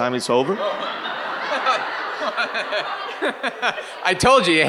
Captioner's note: audience and Michael laughing